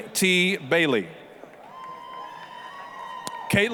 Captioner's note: applause, cheering